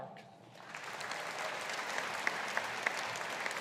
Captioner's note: audience applauding